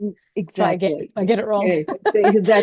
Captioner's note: laughs